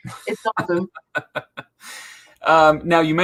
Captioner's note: laughs